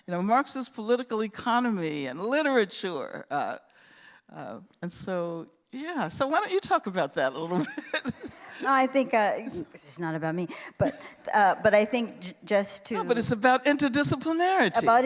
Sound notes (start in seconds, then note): 7.6 laughs